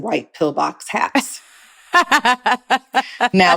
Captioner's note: laughing